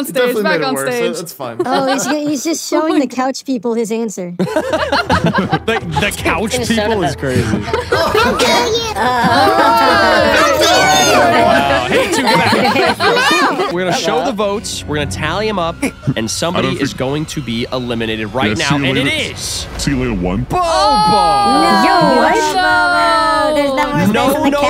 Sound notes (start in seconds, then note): 4.7 hosts laughing